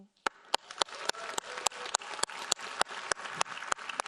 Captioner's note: audience applauding